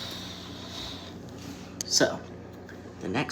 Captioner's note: pffffttt